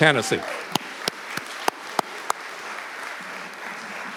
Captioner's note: audience clapping